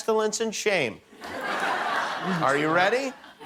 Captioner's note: laughter